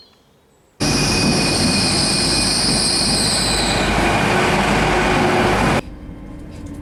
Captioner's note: train engine